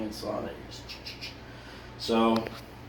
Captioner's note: imitating cutting sounds